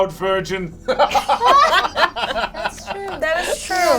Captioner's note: all laugh